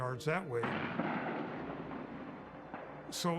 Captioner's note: explosion